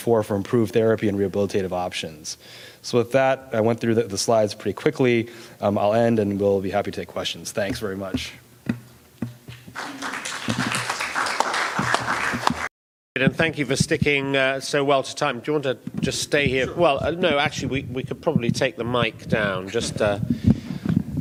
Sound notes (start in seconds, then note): 9.6 audience applause